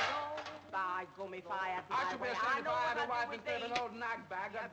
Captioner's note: metal clattering; people yelling